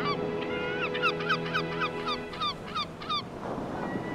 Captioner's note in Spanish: pájaros graznando